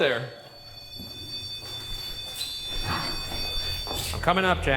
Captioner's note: device blaring